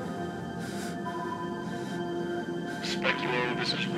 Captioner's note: breathes heavily